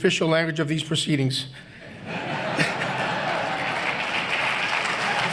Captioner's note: laughter and applause